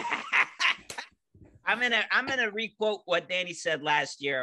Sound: laughing

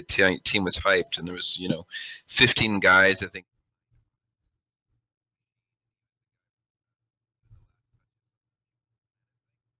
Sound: audio cuts out

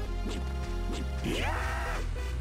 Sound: cod zombies scream

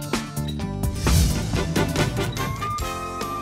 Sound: heavy shutter sound; upbeat theme music

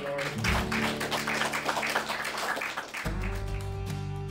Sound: clapping

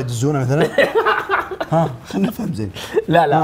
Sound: laughs

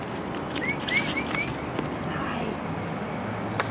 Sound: whistles

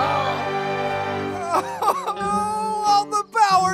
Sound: sobbing

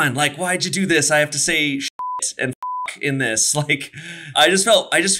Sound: beep

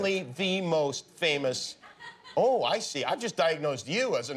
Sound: laughter

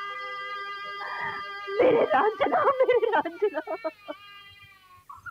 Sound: wailing

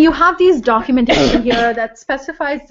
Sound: cough

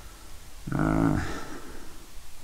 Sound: rumbles

